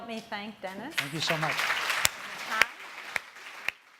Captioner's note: applauding